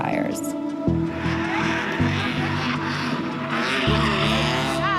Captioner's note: engines rev